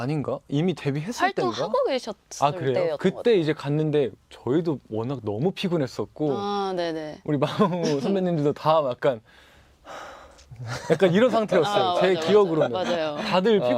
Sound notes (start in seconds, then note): 9.8 sigh